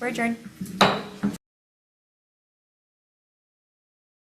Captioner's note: gavel bangs